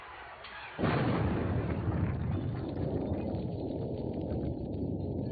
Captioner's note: explosion